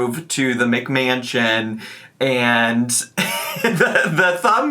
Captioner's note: laughs